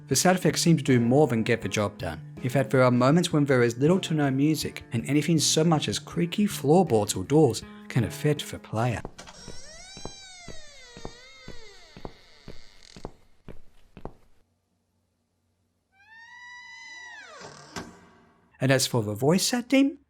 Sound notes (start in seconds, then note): 8.8 creaky doors and floorboards, and footsteps